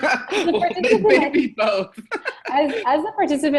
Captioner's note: both laughing; laughing